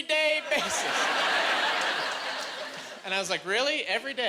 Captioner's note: laughing